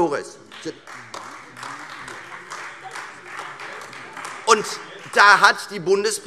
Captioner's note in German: Beifall Freie Demokraten und vereinzelt AfD